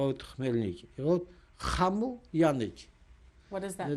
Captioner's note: non-english